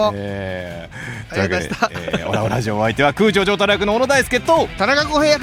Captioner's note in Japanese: 笑い